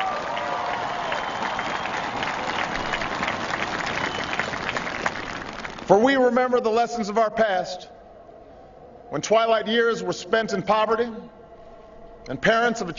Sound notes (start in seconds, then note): 2.2 applause